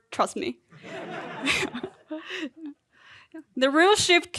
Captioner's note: audience laughing; chuckling